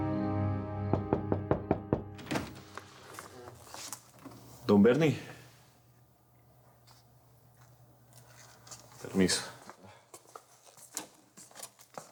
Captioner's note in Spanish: Toques en la puerta